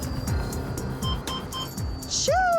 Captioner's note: beeping